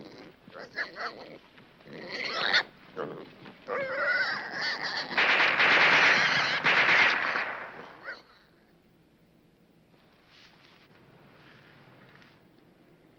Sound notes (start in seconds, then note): 0.2 pig squealing; 5.1 gun firing